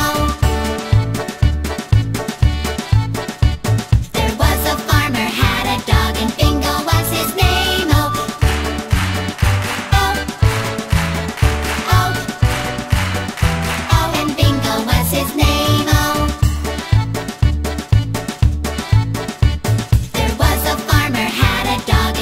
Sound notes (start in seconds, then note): 0.1 polka music; 8.4 clap, clap, clap, clap; 16.9 polka music